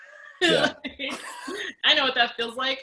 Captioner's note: all laugh